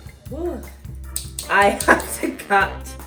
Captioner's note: chopping noises